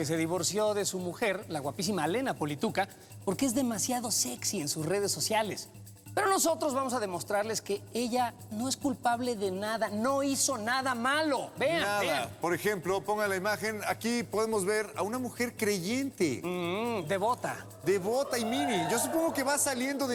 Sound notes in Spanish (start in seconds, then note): 17.8 exclamaciones del público